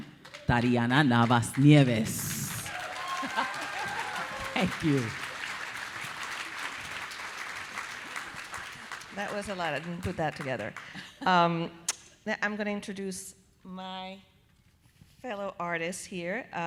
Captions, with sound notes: (audience applauding) Tariana Navas-Nieves. (audience cheering) Thank you. - That was a lot, I didn't put that together. Now I'm gonna introduce my fellow artist here.